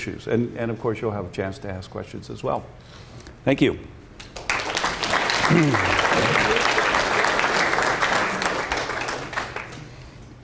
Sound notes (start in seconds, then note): 4.2 applause